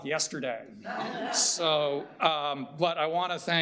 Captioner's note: audience chuckling